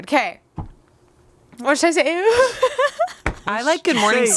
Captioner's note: laughs